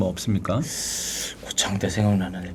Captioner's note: inhaling